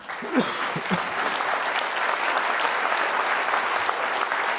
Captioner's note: audience applause